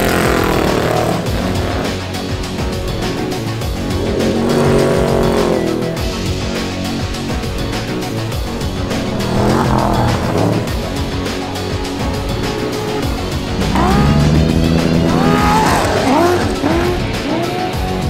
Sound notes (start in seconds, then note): 9.3 upbeat music; 14.6 engine revving